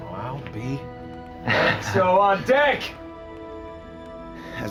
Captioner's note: laughing